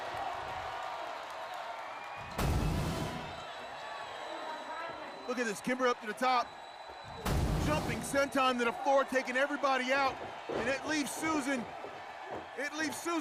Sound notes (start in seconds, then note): 0.2 cheering; 2.3 sound effect